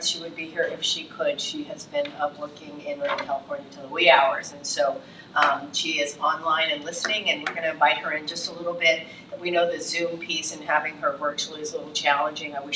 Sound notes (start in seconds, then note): none